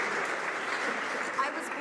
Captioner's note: some Applause